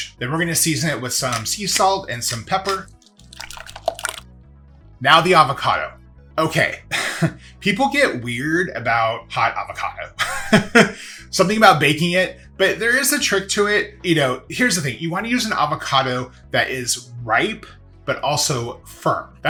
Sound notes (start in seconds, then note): 2.6 liquid gurgling; 10.3 laughs